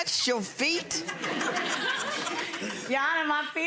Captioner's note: audience laughs